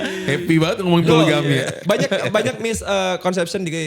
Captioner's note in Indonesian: tertawa